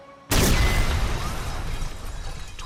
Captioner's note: explosion sounds in background